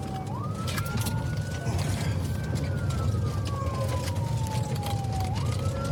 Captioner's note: siren wailing